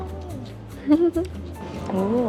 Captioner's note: giggles